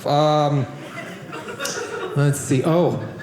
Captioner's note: audience laughing